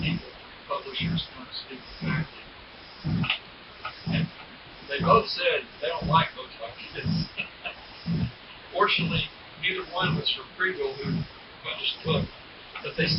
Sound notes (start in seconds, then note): 6.7 chuckles